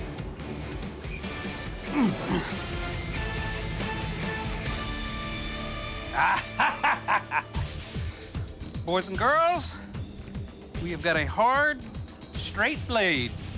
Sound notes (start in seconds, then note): 6.1 laughs